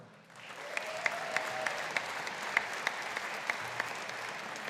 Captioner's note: audience applauding